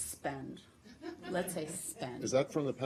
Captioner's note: laughter